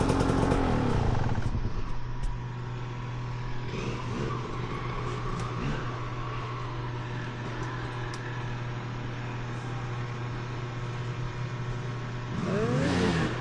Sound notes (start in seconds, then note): 3.4 engine revving